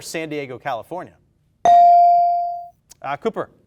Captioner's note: bell dings